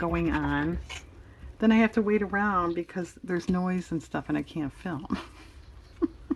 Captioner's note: laughs